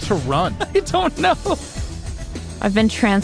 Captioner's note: laughs